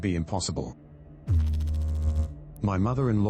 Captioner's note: electrical noise